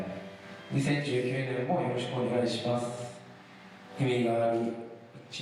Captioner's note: speaking foreign language